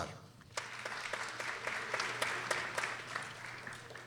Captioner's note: people applauding